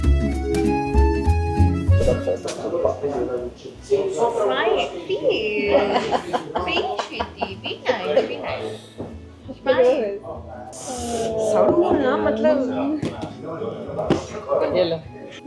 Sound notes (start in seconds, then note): 5.6 laughter